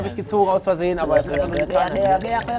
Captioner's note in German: Ekelgeräusche